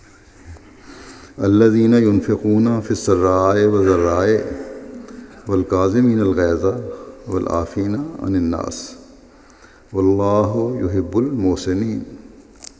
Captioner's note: Arabic